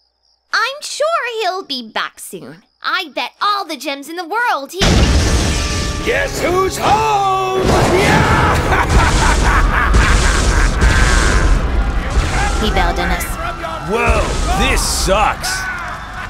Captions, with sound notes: I'm sure he'll be back soon! I bet all the gems in the world he- Guess who's ho-ome! *evil laughter* He bailed on us. Woah. This sucks.